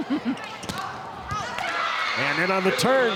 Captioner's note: ball thumping